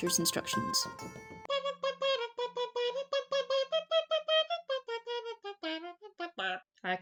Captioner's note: terrible trumpet impersonation interlude